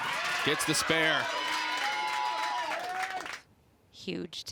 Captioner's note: crowd cheers and applauds